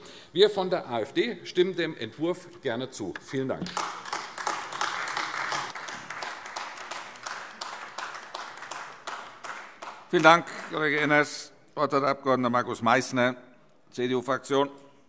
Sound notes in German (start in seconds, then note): 7.1 Beifall AfD